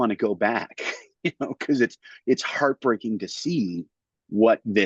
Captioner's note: laughs